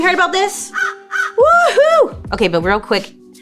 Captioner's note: cawing